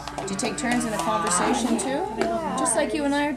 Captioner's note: cow mooing in background